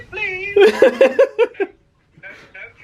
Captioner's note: laughs